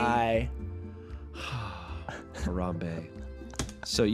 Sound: sighs

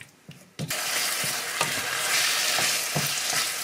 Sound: sizzling

